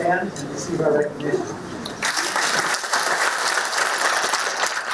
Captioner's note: applause